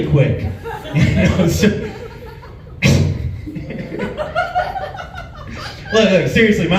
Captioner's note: laughs